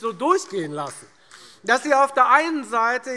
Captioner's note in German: Beifall